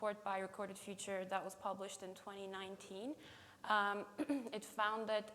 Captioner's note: clears throat